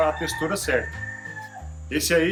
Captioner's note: rooster crowing in the background